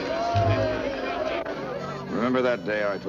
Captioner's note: crowd cheering